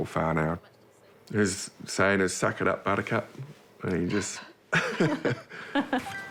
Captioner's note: both chuckle; bright reggae music